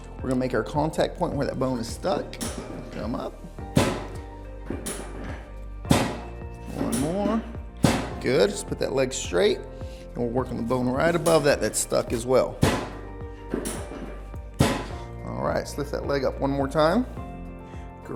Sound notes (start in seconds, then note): 4.7 metal clacking; 13.5 metal clacking